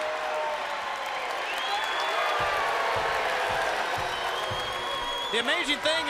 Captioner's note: crowd cheering